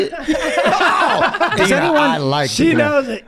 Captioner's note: Rob and Charlie laugh